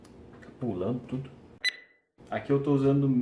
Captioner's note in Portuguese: bipe